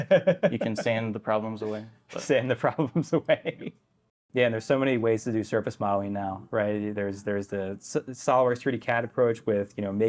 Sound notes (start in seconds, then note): 0.0 laughs